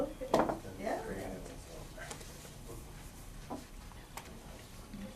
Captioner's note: class lowly talking together